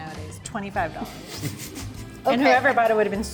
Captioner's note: laughs